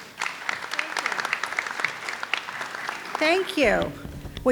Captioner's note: audience applauds